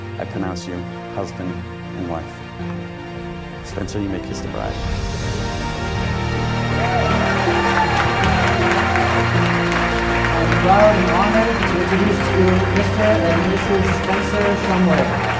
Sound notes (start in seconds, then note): 5.2 dreamy piano music; 5.3 audience cheers; 15.2 dreamy piano music